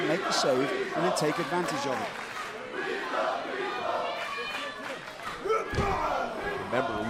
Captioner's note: crowd cheering